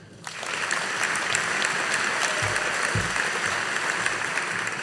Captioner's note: audience applauding